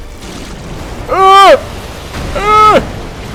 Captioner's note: screams